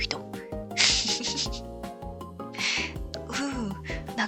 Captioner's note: laughs